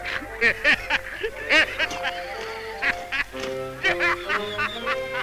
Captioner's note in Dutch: geursen buldert van het lachen